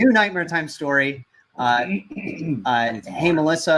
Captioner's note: clears throat